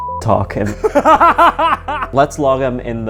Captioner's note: laughing